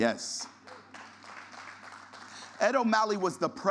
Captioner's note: audience applause